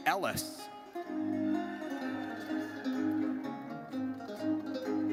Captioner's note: audience cheers